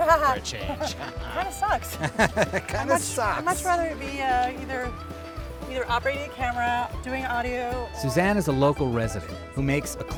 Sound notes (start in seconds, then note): 1.9 woman laughing; 2.0 chuckles